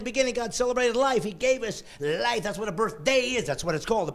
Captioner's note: laughing